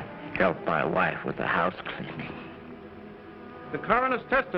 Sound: chuckling

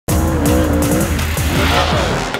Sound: car engine

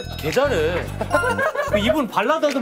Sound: Laughing at Kyuhyun

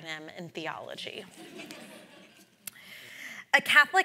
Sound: audience laughs

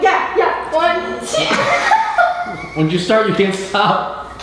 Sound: laughs

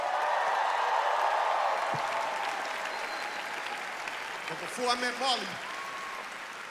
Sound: cheering, applause

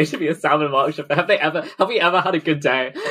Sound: laughs

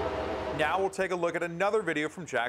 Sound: wind blowing

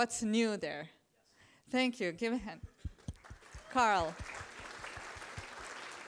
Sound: applause

